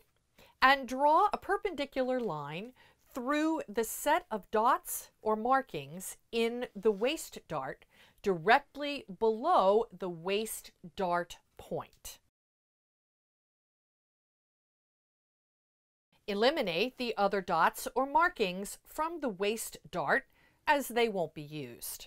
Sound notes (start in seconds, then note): 12.2 no Sound Present